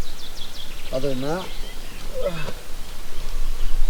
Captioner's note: groans